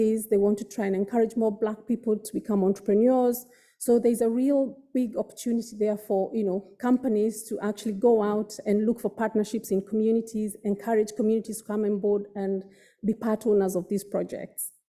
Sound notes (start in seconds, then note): none